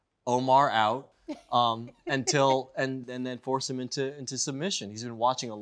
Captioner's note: laughs